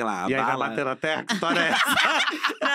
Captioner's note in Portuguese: risos